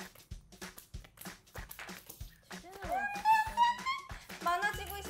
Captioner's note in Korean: 고수 둘의 / 치열한 카드 소리